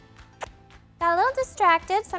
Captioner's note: lips smacking